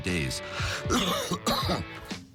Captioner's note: cough, cough